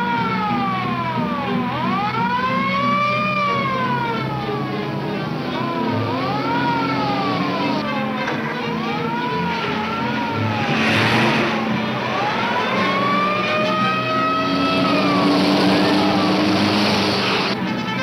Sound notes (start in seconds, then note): 0.9 dramatic music; 3.3 siren wailing